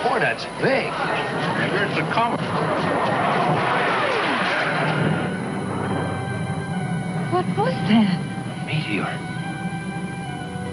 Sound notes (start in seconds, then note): 3.5 ship engines zooming